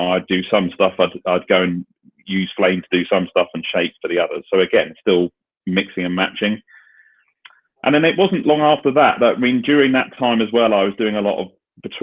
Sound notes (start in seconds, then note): none